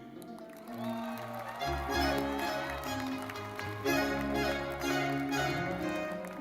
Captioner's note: audience clapping; lively music